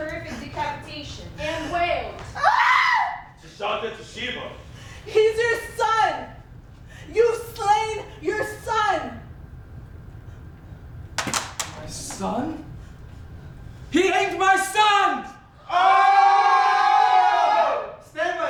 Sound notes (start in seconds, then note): 2.4 wails; 15.6 the Players yell